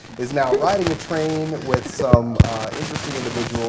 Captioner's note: laughter